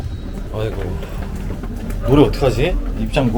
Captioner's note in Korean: 탄식